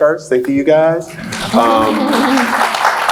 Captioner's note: applauds